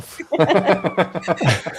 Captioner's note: laughter